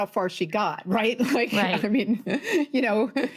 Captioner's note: laughs